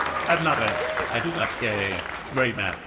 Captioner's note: audience applauds